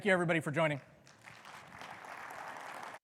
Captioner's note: audience applauding